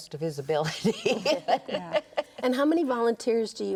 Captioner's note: laughs